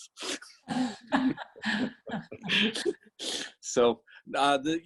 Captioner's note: all laughing